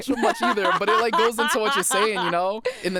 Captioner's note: laughs